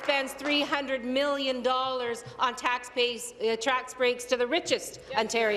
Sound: applause

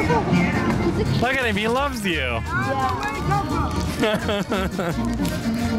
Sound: laughter

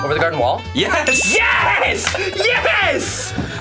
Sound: bell dings; claps

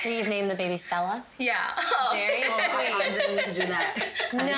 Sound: laughs

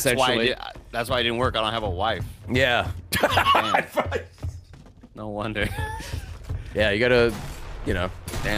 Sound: laughs

